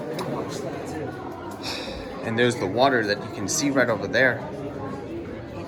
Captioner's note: exhales